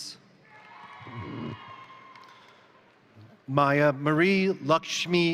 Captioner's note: crowd cheering; crowd applauding